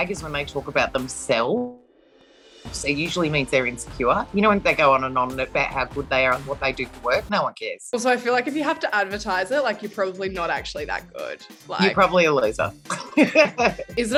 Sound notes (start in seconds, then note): 1.7 computer dink; 12.8 laughs